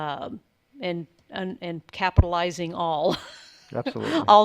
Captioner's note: chuckles